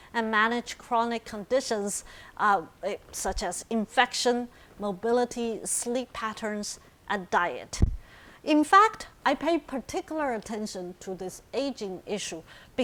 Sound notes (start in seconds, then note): none